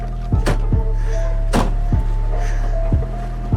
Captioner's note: car door closes